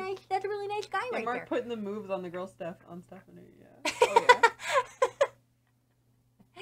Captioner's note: laughs